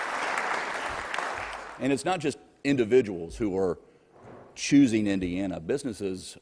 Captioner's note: applause